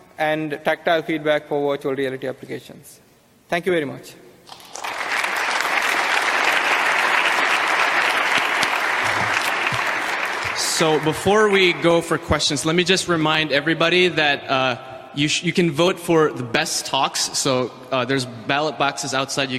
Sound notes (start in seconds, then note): 4.5 audience applauding